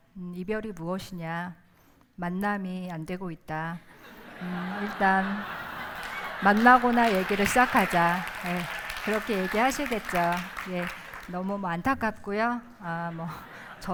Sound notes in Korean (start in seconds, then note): 4.2 웃음; 8.5 박수